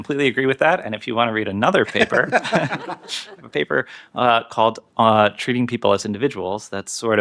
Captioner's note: laughter